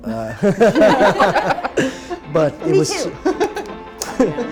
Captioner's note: everyone laughs